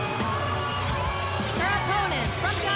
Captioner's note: cheers & boos